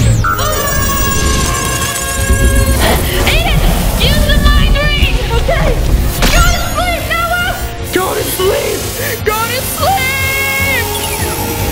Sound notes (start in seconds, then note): 0.9 screaming; 6.9 ring activating